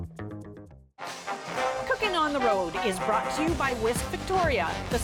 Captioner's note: announcer voice